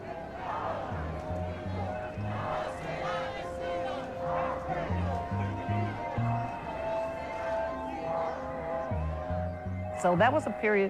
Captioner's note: crowd chanting